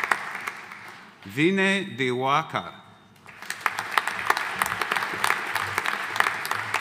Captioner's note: audience applauding